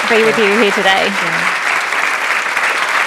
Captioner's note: applause